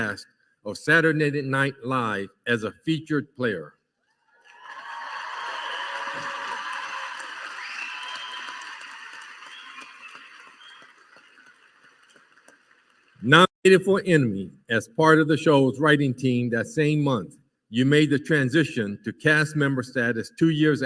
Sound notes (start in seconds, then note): 6.9 applause